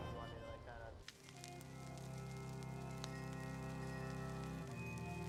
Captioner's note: fire crackling